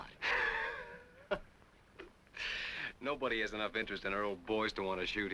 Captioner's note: laughs